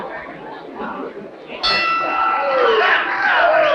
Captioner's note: bell rings; crowd cheers